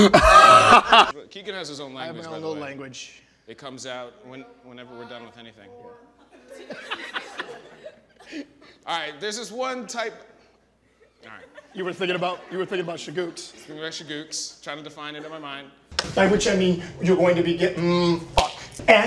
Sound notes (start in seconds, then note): 0.0 Keegan laughing; 6.3 audience laughing; 11.2 audience laughing; 15.9 clapperboard claps